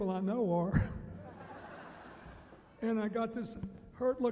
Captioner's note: laughing